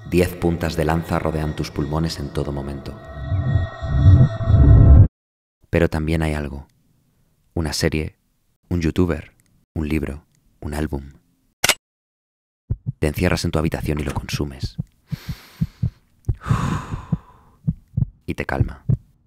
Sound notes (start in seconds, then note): 16.3 deep breathing